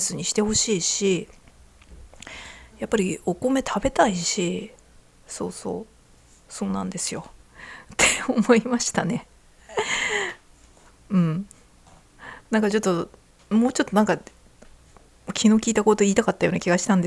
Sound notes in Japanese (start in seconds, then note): 7.5 息をのむ音; 9.7 笑い